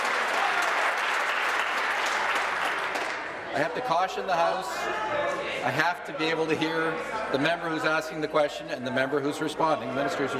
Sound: applause

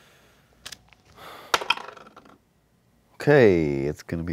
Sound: dice clatter

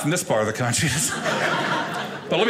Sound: audience laughing

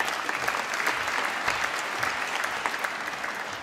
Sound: applause

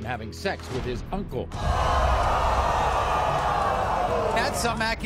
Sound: audience boos

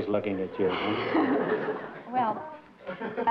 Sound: laughter

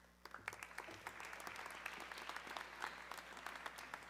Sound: audience clapping

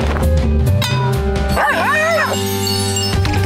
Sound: barking

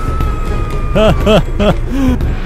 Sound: inhales

